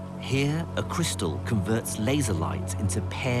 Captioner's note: voiceover